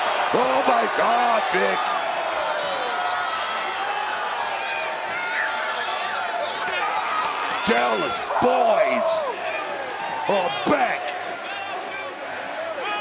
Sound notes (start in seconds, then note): 2.9 crowd cheers